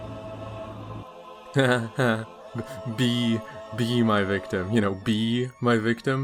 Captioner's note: chuckles